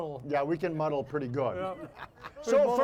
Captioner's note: audience laughing